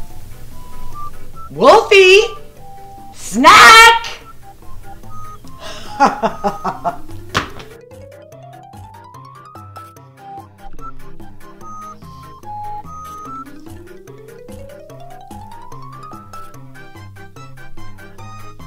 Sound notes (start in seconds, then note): 5.6 laughs; 7.1 hand thuds